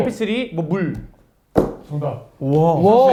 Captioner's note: tap